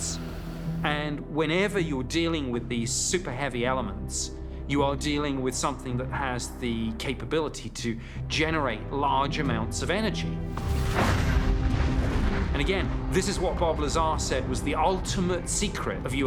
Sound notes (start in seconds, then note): 10.6 explosion